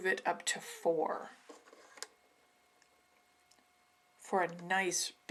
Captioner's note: silence